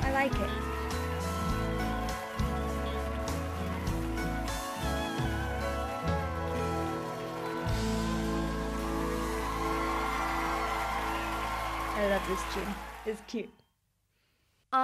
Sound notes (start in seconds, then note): 1.8 band plays; 9.6 audience cheers